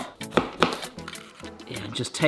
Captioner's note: knife thudding